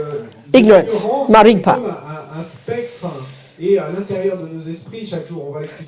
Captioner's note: French